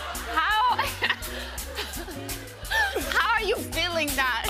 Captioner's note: laughs